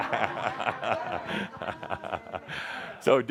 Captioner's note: Adamus laughs